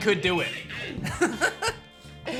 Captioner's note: laughs